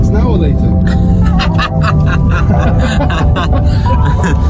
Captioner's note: laughing